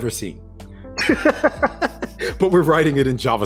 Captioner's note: laughing